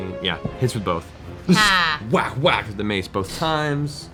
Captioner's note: whack whack